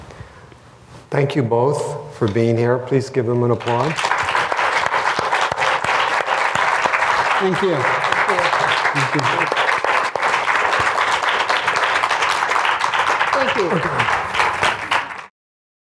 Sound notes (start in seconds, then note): 10.8 applause